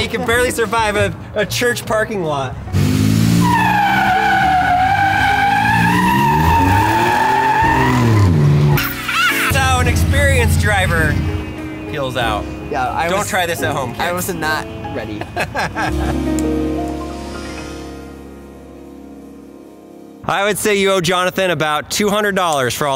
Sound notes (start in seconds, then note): 2.9 tires screeching; 15.1 laughing